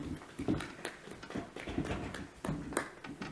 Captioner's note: clapping